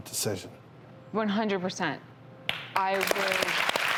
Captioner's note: audience claps